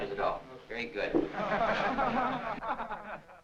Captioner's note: laughter